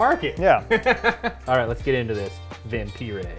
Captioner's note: laughing